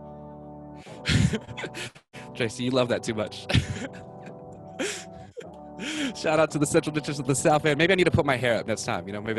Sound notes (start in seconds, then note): 0.2 upbeat music; 3.5 laughs